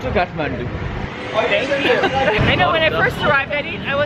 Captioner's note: laughing